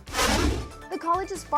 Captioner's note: electronic wind